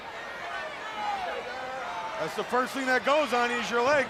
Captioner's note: crowd chatter